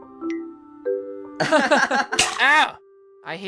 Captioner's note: both laughing